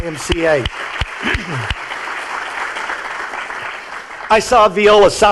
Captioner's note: clapping and applause